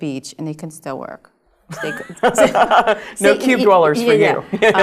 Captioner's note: laugh